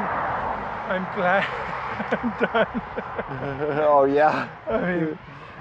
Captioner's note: laughing